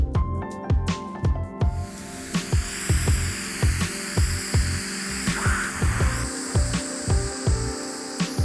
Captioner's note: drill whirring